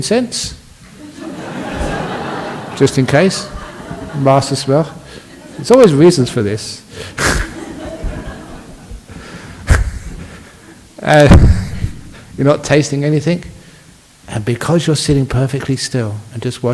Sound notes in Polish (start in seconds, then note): 1.3 Laughs